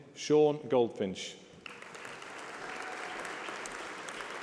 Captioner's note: applause